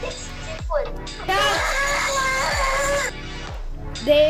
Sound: screams

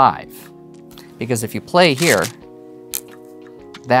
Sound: stones rattling

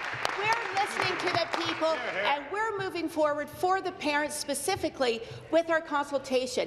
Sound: applause

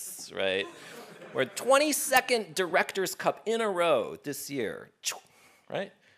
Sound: laugh

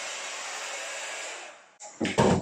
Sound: hair dryer sound

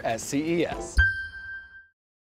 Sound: ding reverberates

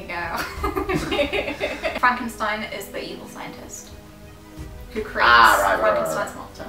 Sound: laughing

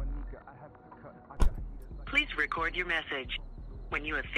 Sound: car's trunk closing

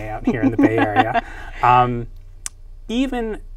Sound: laughs

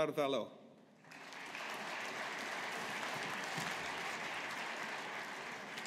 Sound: audience applauding

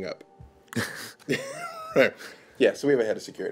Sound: laughing

